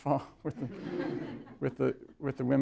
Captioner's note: laughter